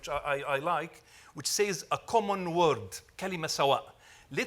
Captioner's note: speaks Arabic